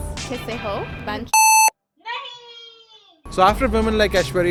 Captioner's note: non-english